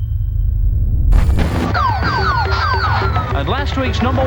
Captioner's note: machine beeping; siren wailing